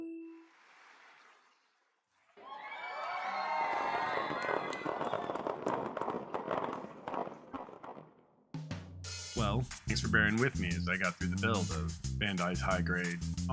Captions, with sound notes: (audience applauding) [APPLAUSE] (audience applauding) (audience cheering) (audience applauding) Thanks for bearing with me as I got through the build of. Bandai's High Grade. Ohana Bear Set